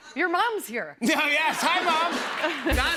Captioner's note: laughter